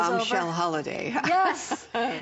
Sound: laughter

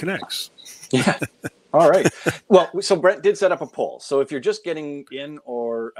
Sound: chuckling

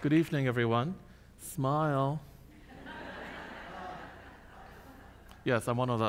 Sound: audience laughs

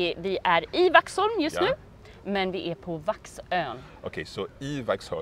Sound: speaking Swedish

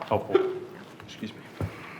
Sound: hiccuping

